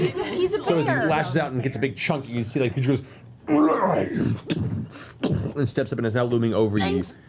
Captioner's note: roars